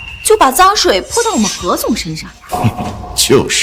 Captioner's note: scoffs